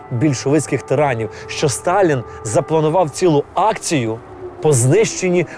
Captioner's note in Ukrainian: звук повітряної тривоги